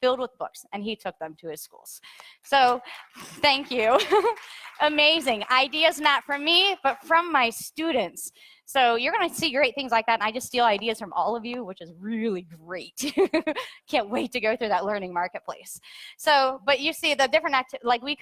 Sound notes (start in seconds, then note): 2.6 audience applauds; 13.3 laughs